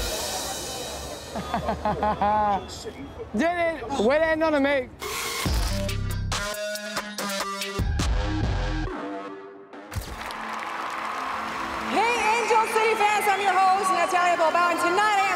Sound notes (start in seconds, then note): 1.3 laughs; 5.0 upbeat music; 10.0 crowd cheers